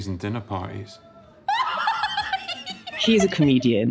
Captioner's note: Martha raucously laughing